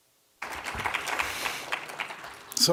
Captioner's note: applause